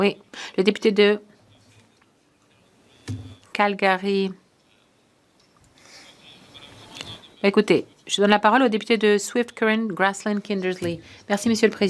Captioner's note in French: voix de l'interprète